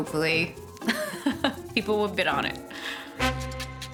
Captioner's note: laughs